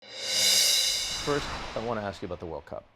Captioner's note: cymbal rings; air whooshes